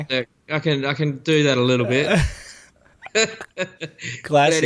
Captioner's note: laughter